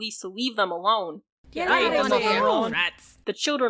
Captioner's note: shouts to leave us alone and other screams